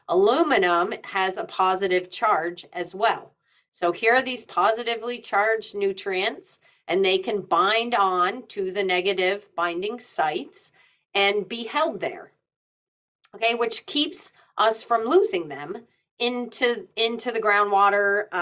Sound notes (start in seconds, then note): none